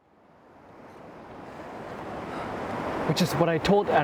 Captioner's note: waves crashing